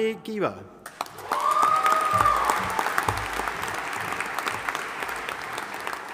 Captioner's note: audience applauding and cheering